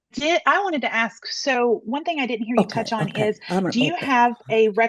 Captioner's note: speaking quietly in background